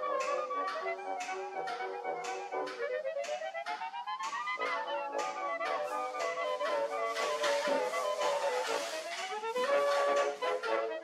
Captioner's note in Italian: Applauso